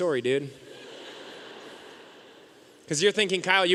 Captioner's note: audience laughing